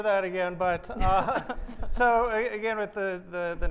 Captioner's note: laughs